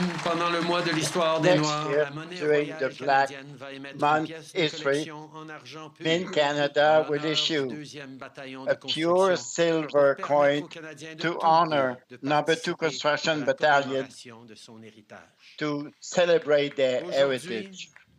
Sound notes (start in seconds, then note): 6.2 speaking french